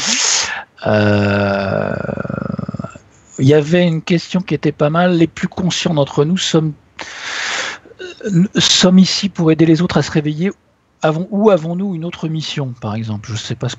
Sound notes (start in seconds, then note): 12.7 laughs